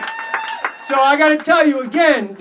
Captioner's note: applause